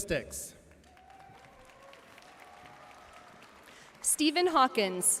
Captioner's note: audience cheering and applauding